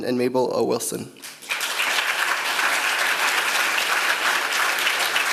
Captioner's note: applause